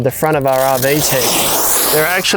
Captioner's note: velcro tearing